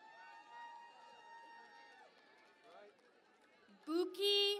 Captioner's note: cheering and Applause